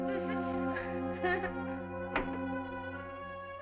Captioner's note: door opens